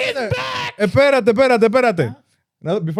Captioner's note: speaking In German